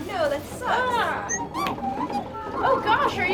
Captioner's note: R3-A3 beeps